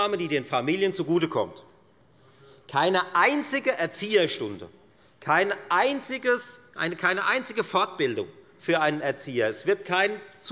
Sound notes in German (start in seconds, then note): none